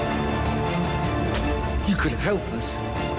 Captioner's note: dramatic music; glass shattering